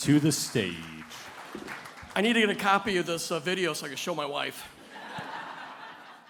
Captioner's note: applause; laughter